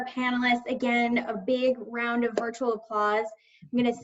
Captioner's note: claps